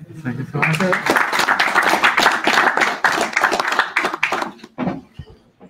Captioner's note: audience applauding